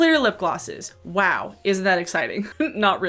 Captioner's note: chuckles